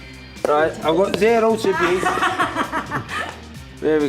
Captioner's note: laughing